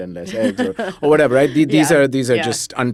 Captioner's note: laughs